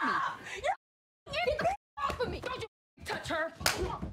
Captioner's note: slaps